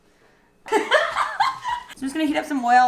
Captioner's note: laughs